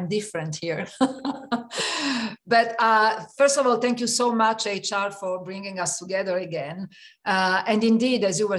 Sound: laugh

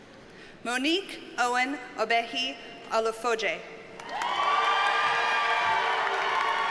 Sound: audience cheers and applauds

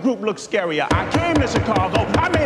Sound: gavel pounds repeatedly

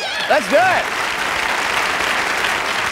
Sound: applause

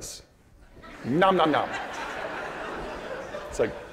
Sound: audience laughing

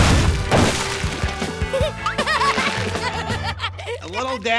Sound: laughing

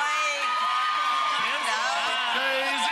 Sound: audience cheering

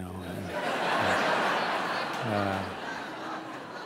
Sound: audience laughs

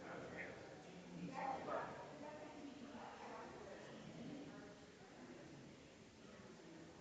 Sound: people chattering distantly continues

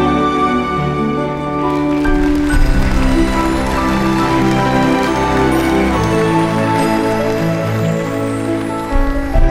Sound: applause

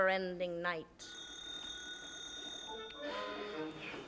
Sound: telephone ring

